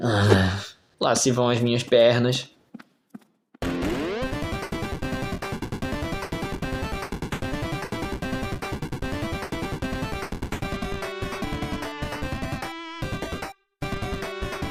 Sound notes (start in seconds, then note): 1.4 sad laugh